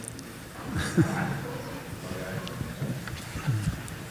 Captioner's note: audience laughs